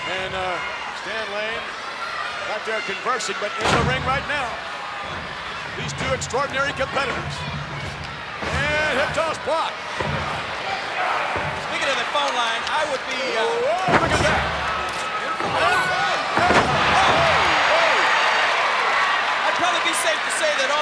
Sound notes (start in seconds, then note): 17.7 crowd cheering